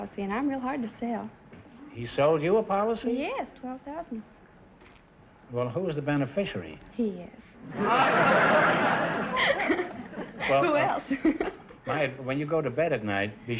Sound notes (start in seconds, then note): 7.6 audience laughter; 9.2 laughing